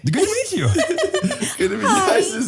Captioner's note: all laughing; laughing